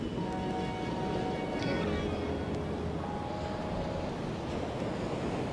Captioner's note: waves breaking